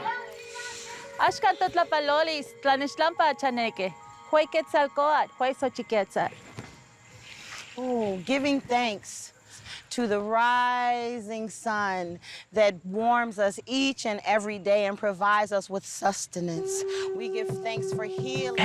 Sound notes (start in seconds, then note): 0.0 protestors chanting in foreign language; 0.2 woman chanting in foreign language; 1.5 speaking in foreign language